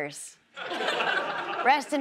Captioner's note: audience laughs